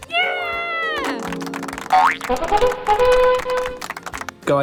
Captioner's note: clapping